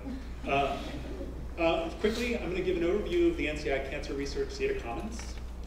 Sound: laugh

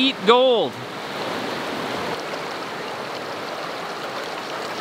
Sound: water rushing

